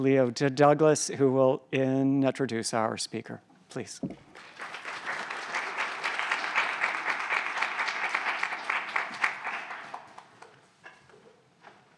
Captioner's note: applause